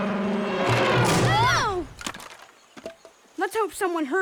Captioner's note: wood clatters